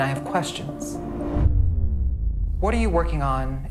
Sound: sound effects

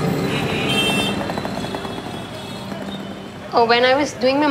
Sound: car horns honking

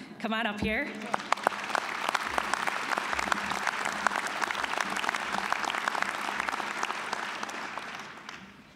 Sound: applause

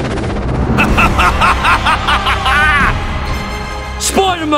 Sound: evil laughter

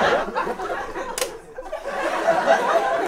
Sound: camera clicks shut

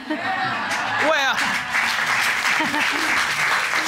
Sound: laughs; audience cheers, applauds; chuckles; audience applauds

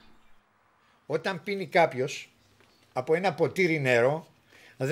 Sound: speaking in Greek

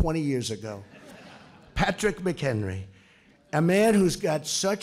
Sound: laughter

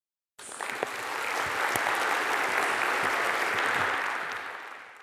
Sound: audience clapping

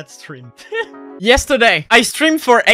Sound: laughing

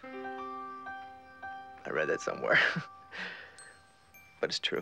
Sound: laughing

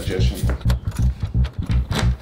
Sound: door unlocks

